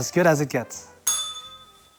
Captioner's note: bell rings